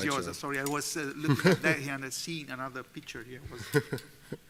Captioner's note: laughter